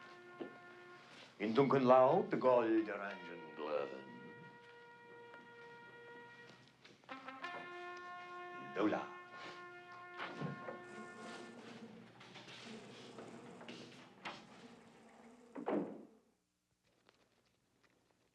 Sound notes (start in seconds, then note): 1.3 speaking german; 10.4 machinery buzzing